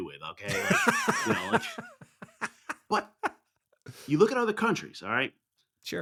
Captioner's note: laughing